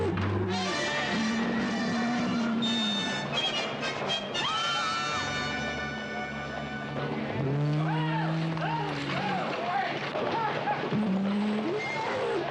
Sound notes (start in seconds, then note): 0.4 bellowing; 4.4 people screaming